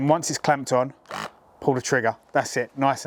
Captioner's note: press gun vibrates